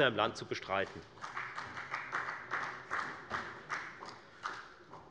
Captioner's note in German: Beifall bei der FDP